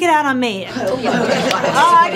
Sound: parents murmur disapprovingly

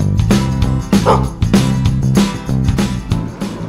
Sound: dog barking

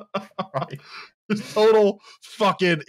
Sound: laughs

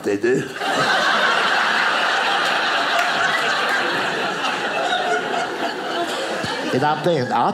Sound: audience laughing

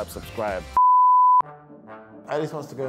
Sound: beep

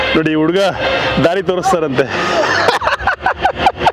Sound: laughs

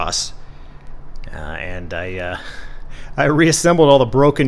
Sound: chuckles

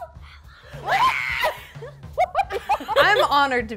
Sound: excited screaming

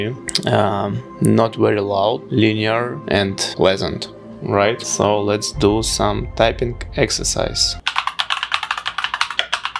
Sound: typing

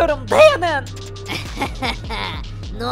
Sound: laughter

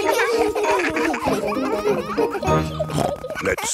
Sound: children laughing; snorts

